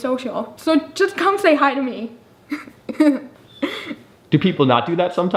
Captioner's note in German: lacht